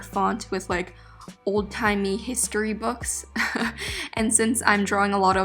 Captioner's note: laughing